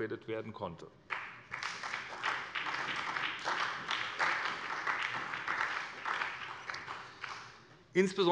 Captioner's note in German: Beifall bei der SPD